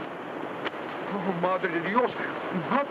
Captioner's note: speaks in foreign language